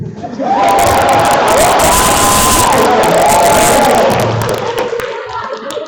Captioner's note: applause and laughter